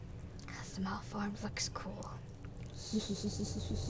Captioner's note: whispers; creepy giggles